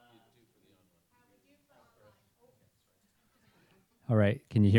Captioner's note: audience mumbles